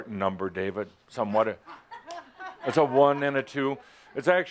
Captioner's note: laughter